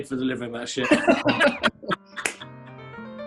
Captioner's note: laughter